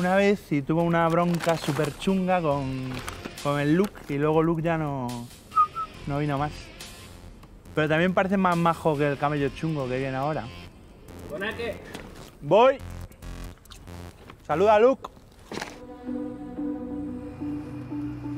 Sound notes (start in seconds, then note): none